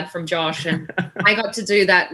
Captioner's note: laughter